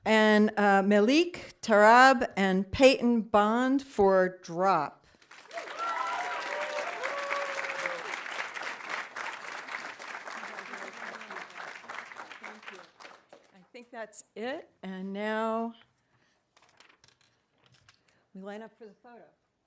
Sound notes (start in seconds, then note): 5.2 audience applauding; 5.4 audience cheering